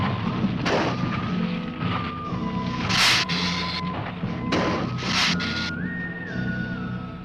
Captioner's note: dramatic music; ground rumbling; lizard hissing